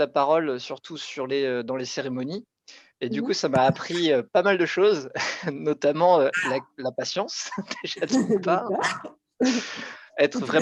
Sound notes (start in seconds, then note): 7.4 laughs